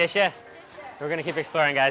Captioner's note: speaks in a foreign language; woman speaks in a foreign language